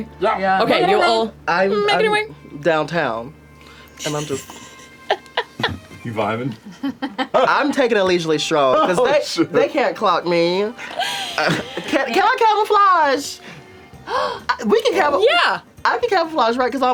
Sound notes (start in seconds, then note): 4.0 laughs